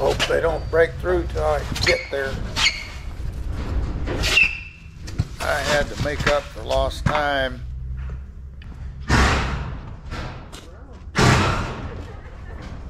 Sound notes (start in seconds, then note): 4.2 sneakers squealing; 8.7 loud pounding on barn